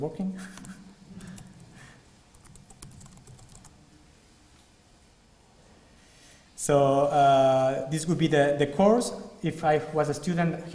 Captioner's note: laugh